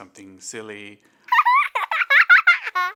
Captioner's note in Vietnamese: trẻ nhỏ cười